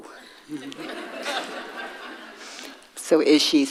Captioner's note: audience laughing